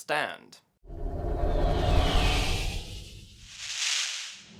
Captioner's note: electronic crackle